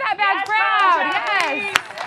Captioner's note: everyone clapping